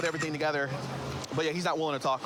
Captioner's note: camera app clicks